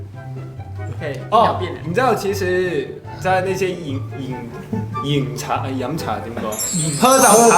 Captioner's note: struggling in cantomandarin